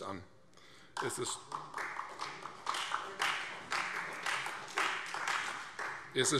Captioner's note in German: Beifall